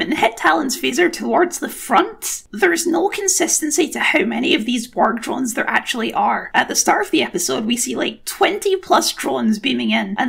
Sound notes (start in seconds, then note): none